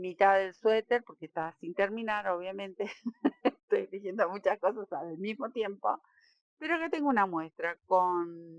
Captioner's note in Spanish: risas